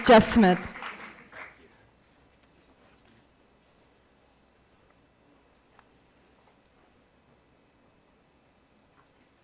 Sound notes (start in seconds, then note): 0.0 cheers